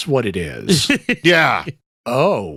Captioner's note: laughing